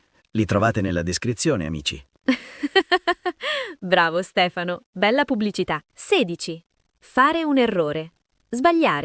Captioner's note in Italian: risate